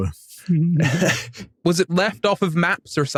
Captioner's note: muted laugh; chuckles